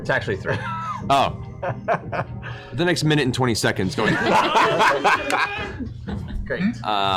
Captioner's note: grunting sounds